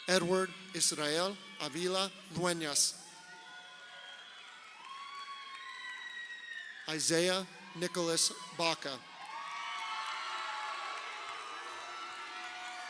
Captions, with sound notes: Edward Israel Avila Duenas. (crowd cheering) Isaiah Nicholas Baca. (crowd cheering)